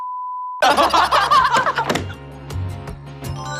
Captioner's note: hahaha